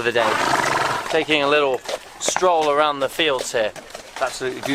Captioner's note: horse blows